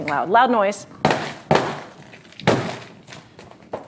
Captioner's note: banging